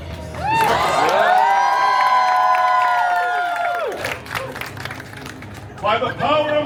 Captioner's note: guests cheering and applauding